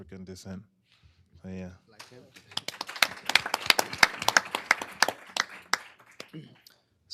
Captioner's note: applause